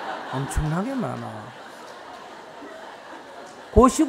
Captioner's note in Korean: 청중 웃음